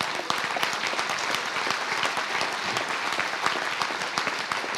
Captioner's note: applause